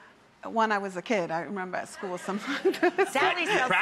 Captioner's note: laughs